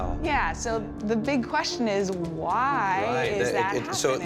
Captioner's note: stammers